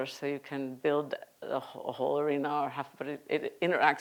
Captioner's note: none